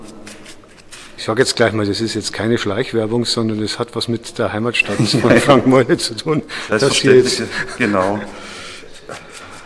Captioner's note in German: lachen